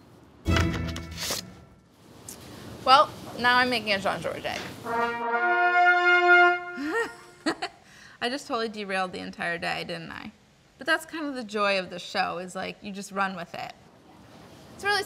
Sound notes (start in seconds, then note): 4.8 trumpets playing; 6.8 laughs